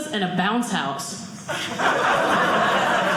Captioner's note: audience laughing